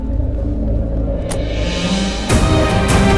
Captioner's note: Car door closes